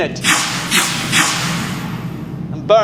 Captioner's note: rockets hissing